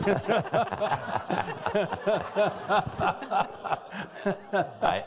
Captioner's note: all laughing